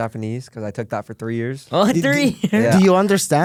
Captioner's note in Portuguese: risos